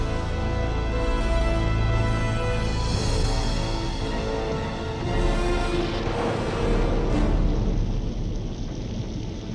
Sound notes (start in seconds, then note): 5.8 storm rumbling